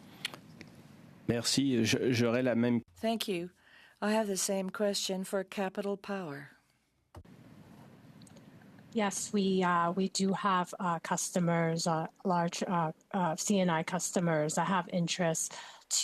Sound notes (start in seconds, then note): 8.3 speaking French